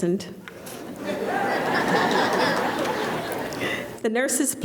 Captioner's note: laughter